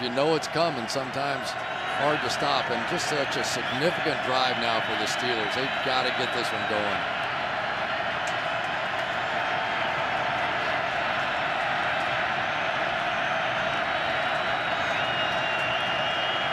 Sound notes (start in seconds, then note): 8.1 crowd cheering